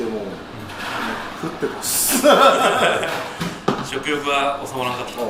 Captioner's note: laugh